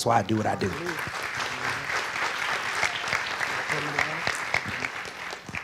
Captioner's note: audience clapping